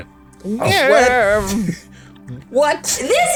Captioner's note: old man noise